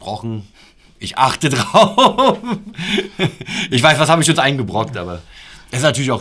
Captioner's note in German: lachen